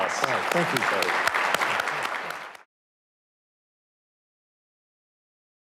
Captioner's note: audience applauds